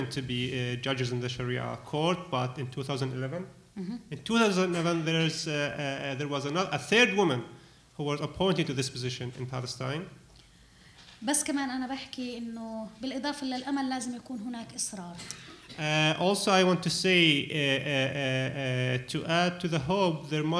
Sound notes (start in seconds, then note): 10.9 speaking arabic